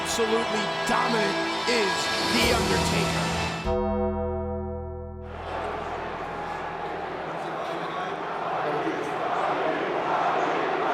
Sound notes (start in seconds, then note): 3.7 dramatic music; 5.3 crowd chattering